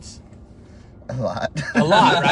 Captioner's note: laughs